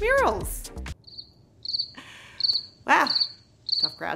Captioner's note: crickets